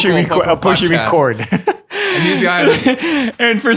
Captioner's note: laughing